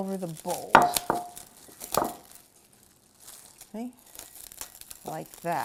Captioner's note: plastic crinkling